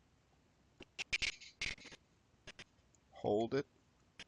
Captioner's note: audio skipping